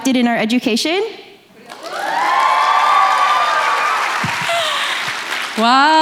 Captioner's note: applause